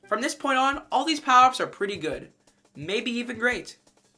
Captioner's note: none